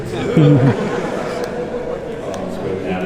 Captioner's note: laughs